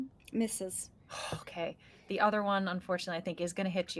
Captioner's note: exhales